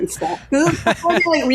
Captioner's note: laughing